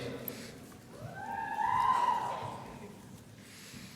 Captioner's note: cheering